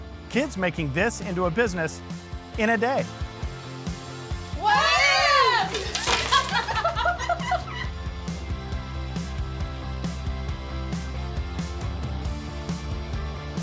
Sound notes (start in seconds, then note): 3.1 upbeat music; 5.6 all laugh; 8.1 upbeat music